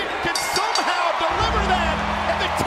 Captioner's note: bell rings